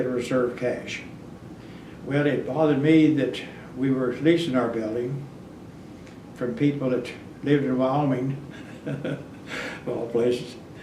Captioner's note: laughs